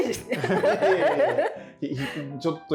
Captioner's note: laughing